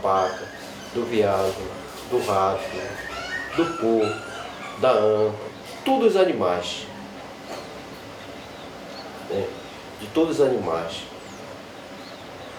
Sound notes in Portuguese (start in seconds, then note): 3.3 animal esganiçando; 11.1 pássaros cantando